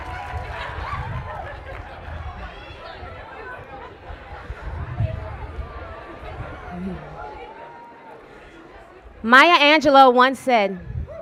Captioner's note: cheers and applause